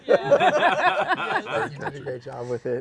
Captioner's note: laughter